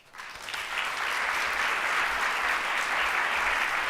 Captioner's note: audience applause